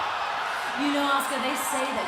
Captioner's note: cheers and applause